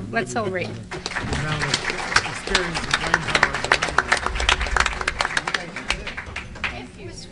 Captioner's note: applause